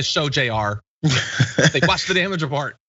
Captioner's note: laugh